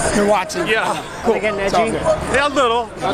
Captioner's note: laughs